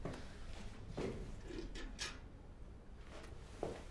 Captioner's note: metal clatters